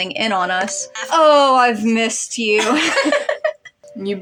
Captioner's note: chuckle; laugh